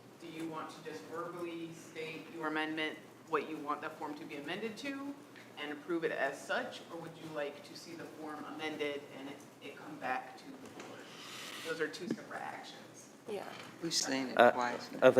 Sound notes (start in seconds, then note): 3.0 louder, with mic on